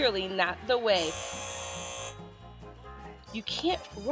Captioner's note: buzzer blares